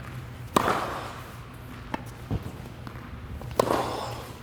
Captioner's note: racket hitting the ball; racket hitting the ball